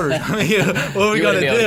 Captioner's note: all laughing